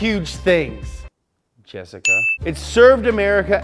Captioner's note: twinkles